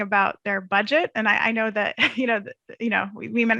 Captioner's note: chuckles